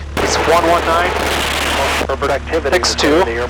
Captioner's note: radio static